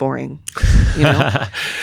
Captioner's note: laughing